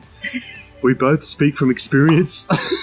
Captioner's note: laughs